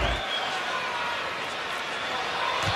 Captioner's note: disturbance in crowd